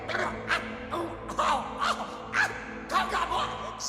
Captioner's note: cries of pain